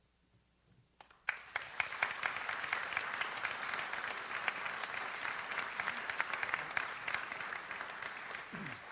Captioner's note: audience applauds